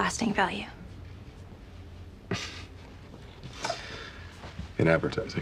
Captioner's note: laughs